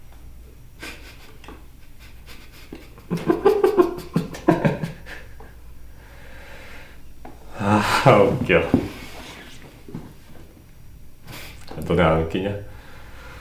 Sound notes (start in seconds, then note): 0.8 suddenly bursts into laughter; 7.6 barely stop laughing